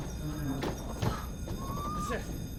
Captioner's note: Britannic groaning